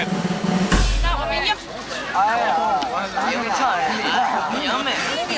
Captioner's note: non-english speech